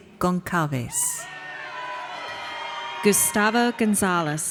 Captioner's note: audience cheers